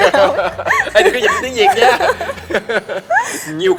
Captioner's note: laugh